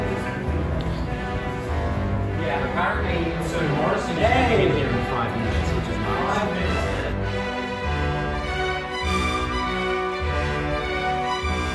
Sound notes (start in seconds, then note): 2.1 chatter